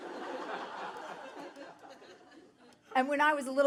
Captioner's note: audience laughing